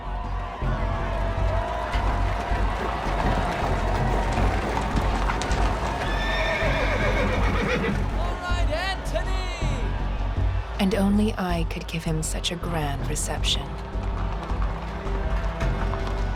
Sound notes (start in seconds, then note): 3.0 horse hooves clattering; 6.2 horse whinnying